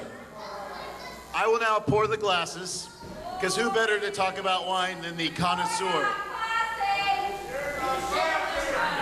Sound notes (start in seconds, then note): 5.6 yells; 7.8 crowd yells